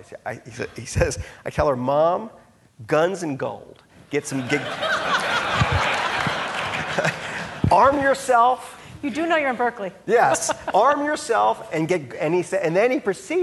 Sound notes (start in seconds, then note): 4.3 audience laughing